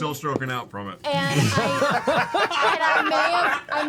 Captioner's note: laughter